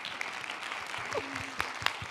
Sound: applause

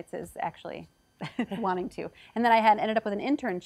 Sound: chuckles

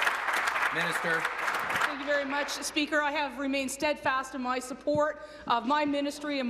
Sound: applause

